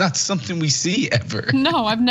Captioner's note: laugh